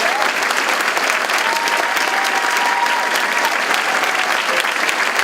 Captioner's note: audience clapping and cheering